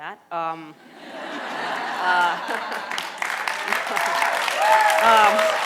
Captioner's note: audience laughter and applause